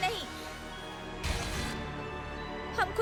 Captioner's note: glitching